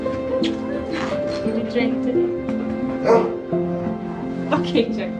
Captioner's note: Chucky barking